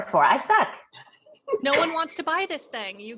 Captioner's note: laughing